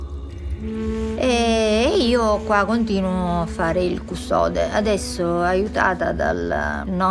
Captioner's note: speaks in foreign language